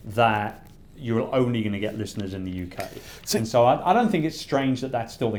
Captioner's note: none